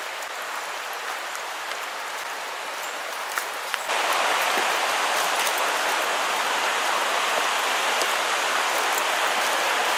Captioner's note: rushing water sounds